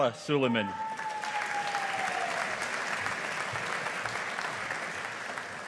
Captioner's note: audience applauding